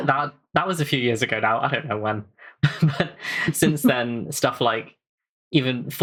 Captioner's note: laughts